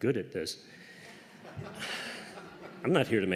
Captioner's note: laughter